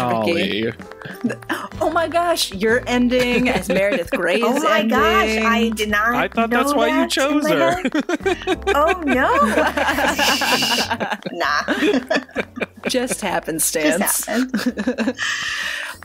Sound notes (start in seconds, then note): 11.5 laughter